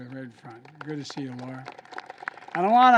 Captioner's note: applause